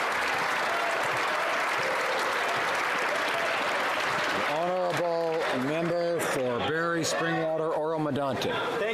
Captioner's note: some Applause